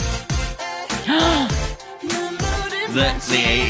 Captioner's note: gasp